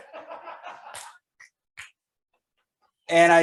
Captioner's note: audience laughing